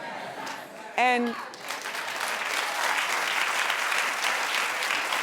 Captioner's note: audience claps